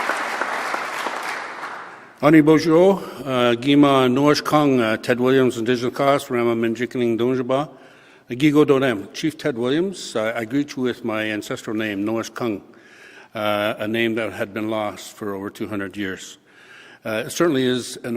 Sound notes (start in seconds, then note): 0.0 applause; 3.8 speaks French